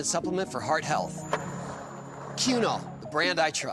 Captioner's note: skateboard wheels roaring